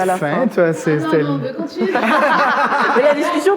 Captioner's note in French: rires